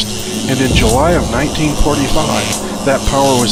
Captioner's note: electricity buzzes